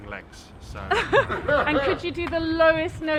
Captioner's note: both laughs